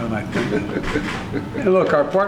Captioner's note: laughs